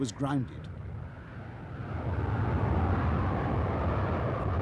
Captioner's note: humming, rumbling